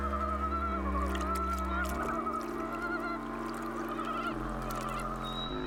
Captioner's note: frogs chirping